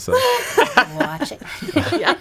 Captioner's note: laughing